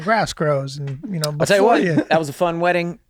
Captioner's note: Kaitlin tsks